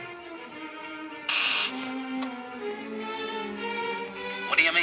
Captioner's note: intercom buzzes